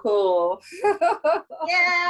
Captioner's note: laughs